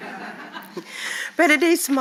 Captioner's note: audience laugh